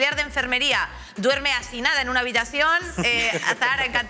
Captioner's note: they laugh